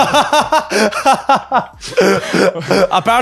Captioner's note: laughing